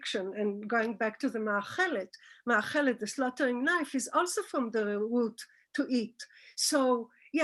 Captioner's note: Hebrew